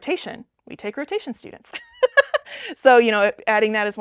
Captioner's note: laughs